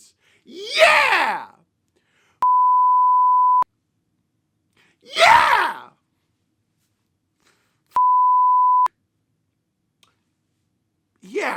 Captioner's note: beep